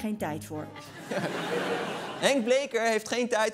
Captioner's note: laughter